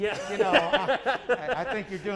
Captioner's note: laughs